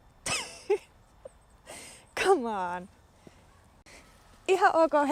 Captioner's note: laughs